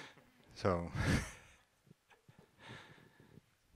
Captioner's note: laugh